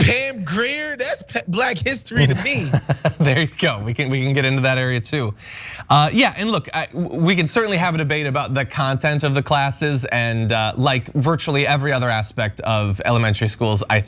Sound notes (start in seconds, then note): 2.1 laugh